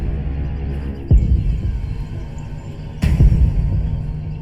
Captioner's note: birds chirping; reverberating music